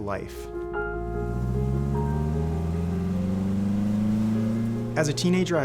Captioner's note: soft music; car engine roaring